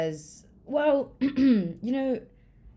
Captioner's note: coughs